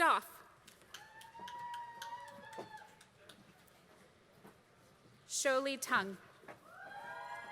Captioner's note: applause; applause